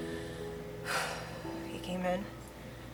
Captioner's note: deep sigh